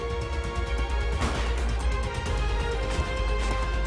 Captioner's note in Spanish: Disparos